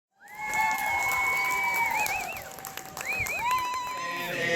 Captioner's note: crowd cheers, whistles